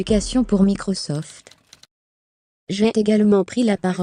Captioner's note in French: en cliquant sur les touches de la machine à écrire